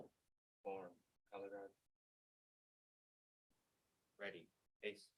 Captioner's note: speaking faintly